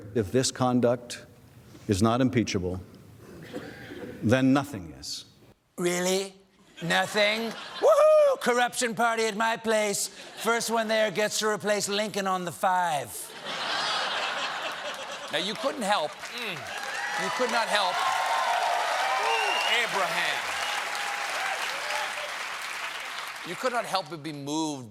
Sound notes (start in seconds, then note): 13.2 laughter; 17.9 applause